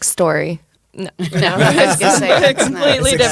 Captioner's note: laughing